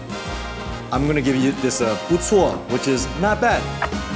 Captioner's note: triumphant music; foreign language